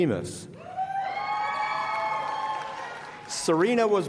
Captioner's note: applause